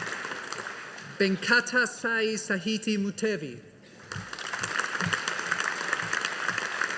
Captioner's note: audience applauding